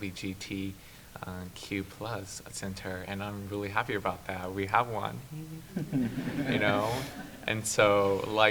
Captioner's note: laughs